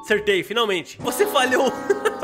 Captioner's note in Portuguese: risos